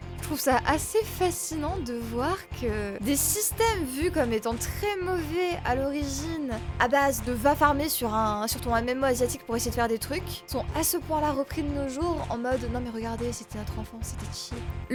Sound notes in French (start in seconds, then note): none